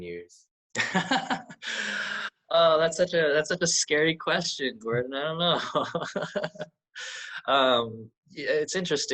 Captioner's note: laughs